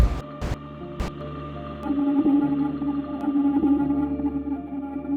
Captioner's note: beeping